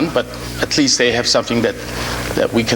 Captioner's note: none